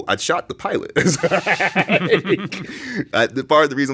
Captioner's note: both laughing